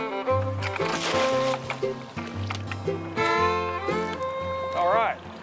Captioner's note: splashing